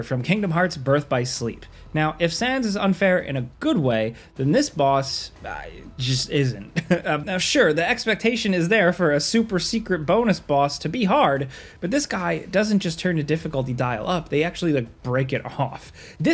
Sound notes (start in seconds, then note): 6.6 chuckles